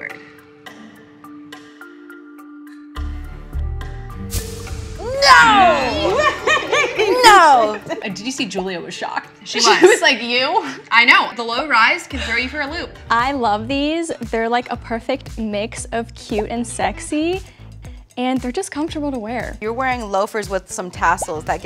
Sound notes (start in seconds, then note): 0.1 light suspenseful music; 5.4 all laughing